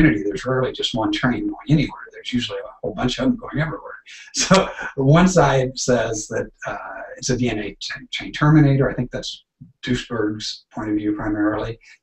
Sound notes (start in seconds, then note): 4.0 chuckling